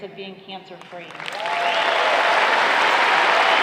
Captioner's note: applause